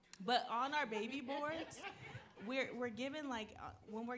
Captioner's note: audience laughing